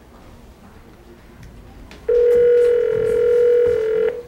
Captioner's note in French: dring!